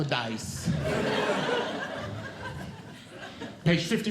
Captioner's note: audience Laughing